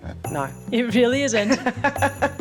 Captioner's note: laughs